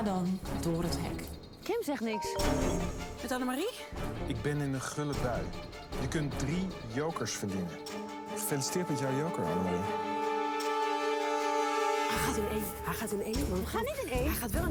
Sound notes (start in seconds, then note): 2.2 ringtone